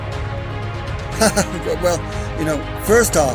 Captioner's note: laughs